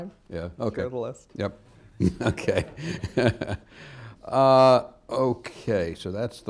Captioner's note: laughs